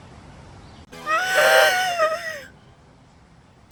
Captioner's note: gasps